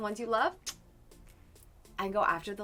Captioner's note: soft kiss